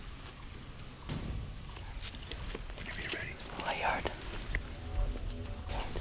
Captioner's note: whispering